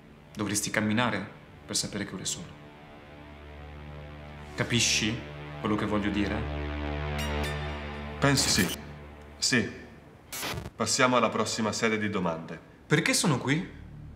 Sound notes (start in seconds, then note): 10.2 electronic distortion